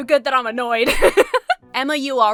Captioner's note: laughs